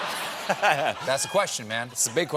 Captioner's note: laughter